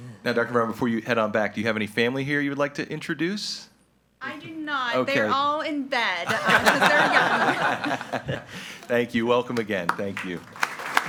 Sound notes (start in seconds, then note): 6.2 group laughing